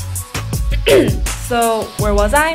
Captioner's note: coughs